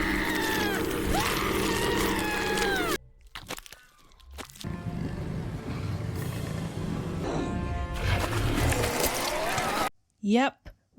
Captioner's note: various dramatic sound effects